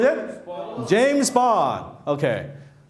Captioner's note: assorted Yelling